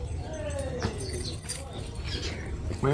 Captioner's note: keys clinging sound